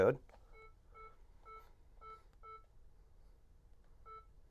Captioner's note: beeping